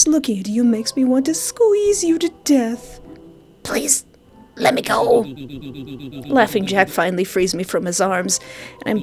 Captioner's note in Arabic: يضحك